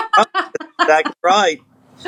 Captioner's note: laugh